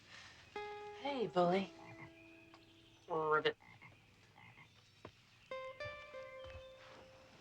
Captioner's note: frog croaking